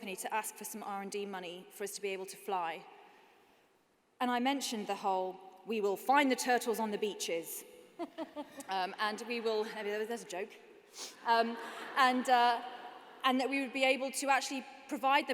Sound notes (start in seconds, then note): 7.9 laughter